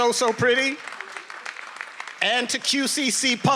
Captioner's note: attendees applauding